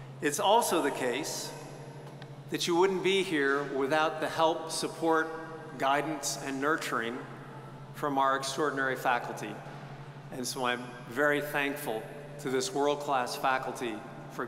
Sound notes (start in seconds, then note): none